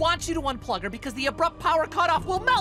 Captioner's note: none